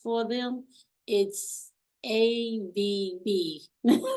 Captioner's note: laughs